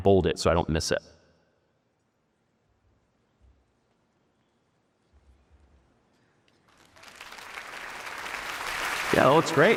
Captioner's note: applause